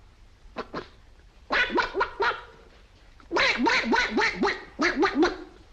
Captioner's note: imitates duck